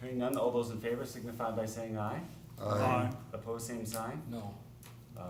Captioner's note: chorus of ayes